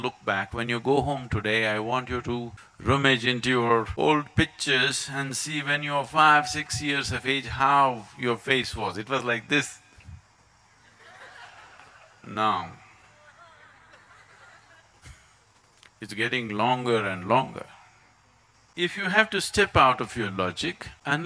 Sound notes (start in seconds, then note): 10.8 gestures - Laughter